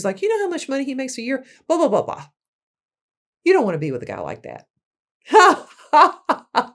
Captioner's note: laughing